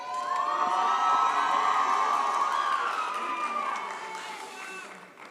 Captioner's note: audience cheers